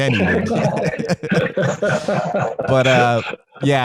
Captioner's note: laughing